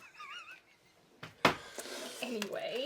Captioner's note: chuckling